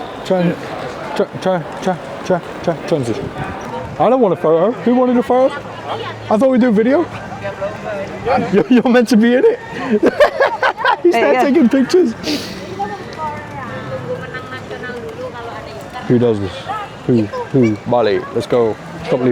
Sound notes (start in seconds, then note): 9.5 laughing